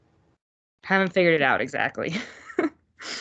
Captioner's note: laughing